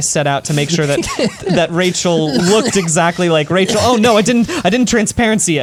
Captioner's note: cough-laughs